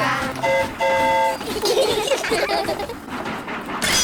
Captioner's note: train horn toots; all giggle